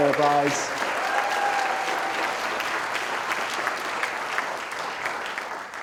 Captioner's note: audience cheering and applauding